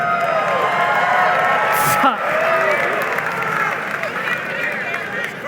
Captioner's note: audience cheering and applauding